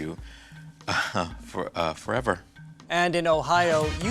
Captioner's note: chuckling